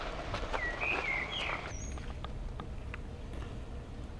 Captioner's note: birds chirping